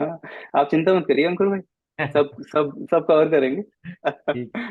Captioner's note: laughs